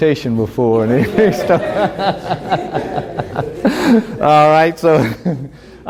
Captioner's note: laughter